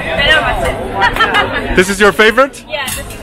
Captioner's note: laughing